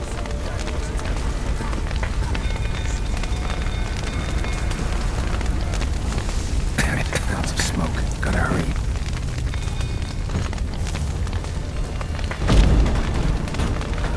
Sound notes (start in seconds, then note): 6.8 cough; 9.4 flames crackling; 12.4 Aard booms